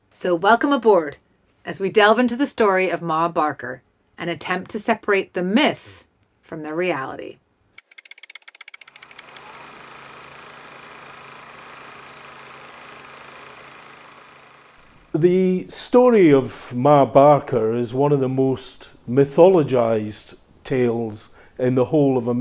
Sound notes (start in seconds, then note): 7.8 typewriter keys clacking; 8.7 projector whirring